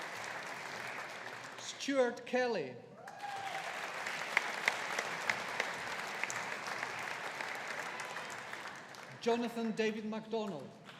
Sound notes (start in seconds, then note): 3.0 audience applauding